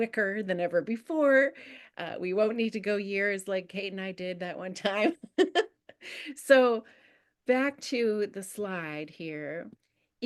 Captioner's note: giggles